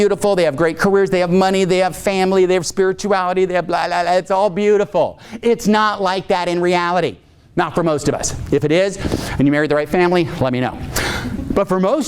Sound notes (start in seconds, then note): none